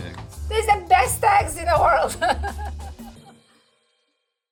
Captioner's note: chuckles